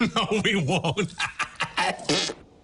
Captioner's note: laughing